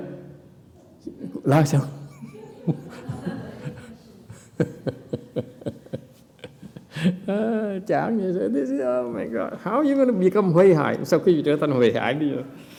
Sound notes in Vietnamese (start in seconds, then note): 2.0 laughter